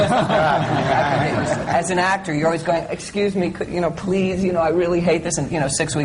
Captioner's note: laughter